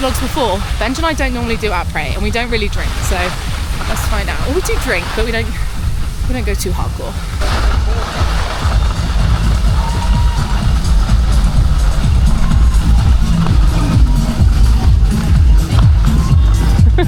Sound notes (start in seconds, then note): 7.4 skis scrape; 14.2 music gets louder